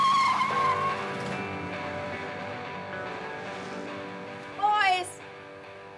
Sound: tires peeling out; upbeat rock music

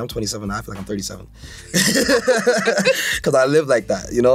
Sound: both laugh

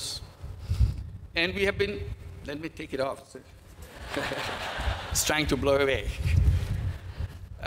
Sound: laughter

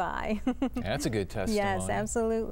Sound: laughter

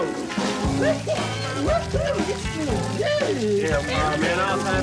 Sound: Carl laughs

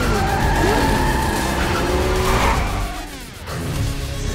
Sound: tires screeching; dinosaur growls

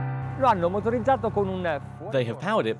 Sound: upbeat music; speaking foreign language

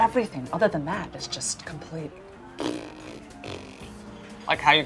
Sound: makes raspberry

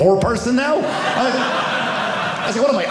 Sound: audience laughing

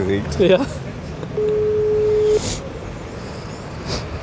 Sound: dial tone

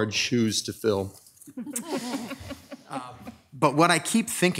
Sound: audience laughing

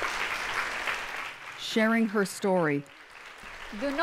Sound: applause

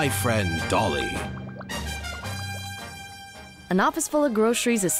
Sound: bubbling

